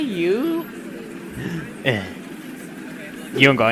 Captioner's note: heavy breath